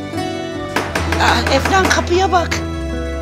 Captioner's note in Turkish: kapı vurulur